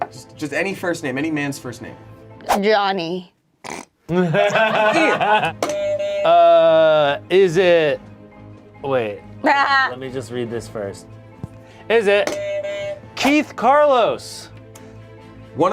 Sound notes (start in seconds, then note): 3.6 snorts; 5.6 buzzer honks; 9.4 laughs; 12.2 buzzer honks